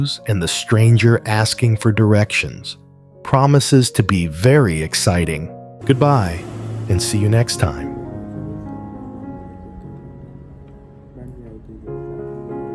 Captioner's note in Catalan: Cops de martell i l'estrany demanant indicacions